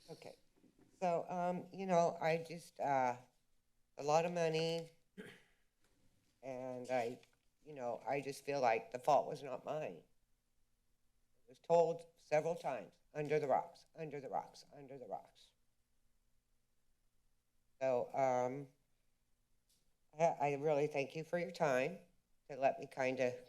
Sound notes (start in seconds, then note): 5.2 throat clearing